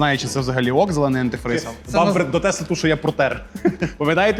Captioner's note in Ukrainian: сміх